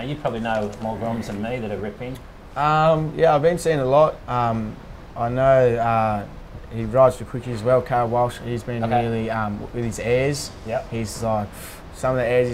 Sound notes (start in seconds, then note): 11.5 phew